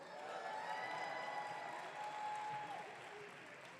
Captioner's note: audience cheering